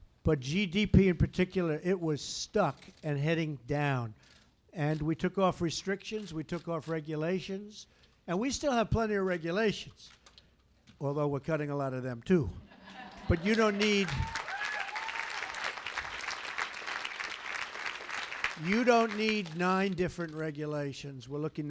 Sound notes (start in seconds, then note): 12.6 laughter; 13.1 applause